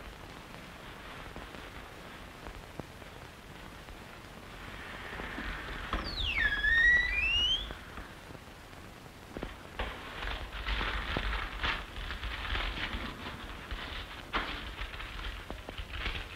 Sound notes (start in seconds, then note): 5.4 door creak